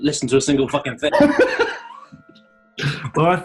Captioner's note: laughter